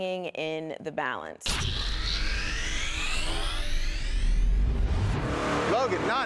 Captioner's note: computerized motor revving